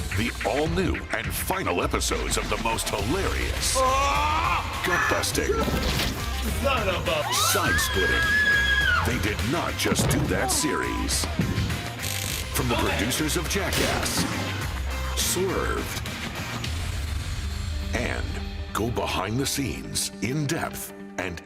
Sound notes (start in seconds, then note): 9.4 screaming